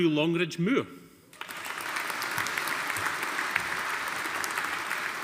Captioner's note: audience applauding